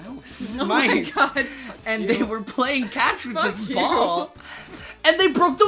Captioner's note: both laughing